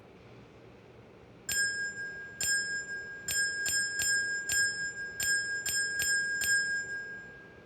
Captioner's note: dinging